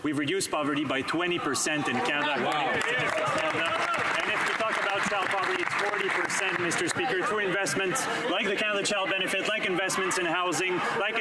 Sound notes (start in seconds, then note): 6.6 some Applause